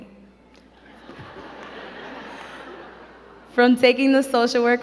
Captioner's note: crowd giggling